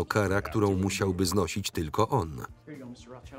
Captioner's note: voiceover